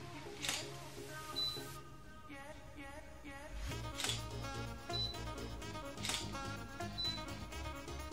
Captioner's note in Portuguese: Som de câmera fotográfica